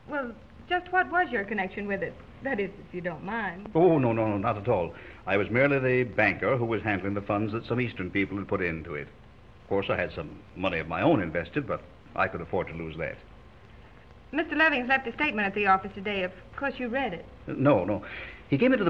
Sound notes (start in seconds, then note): none